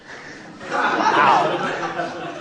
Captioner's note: laughter